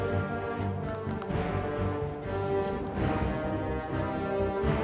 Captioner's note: joints popping; intense music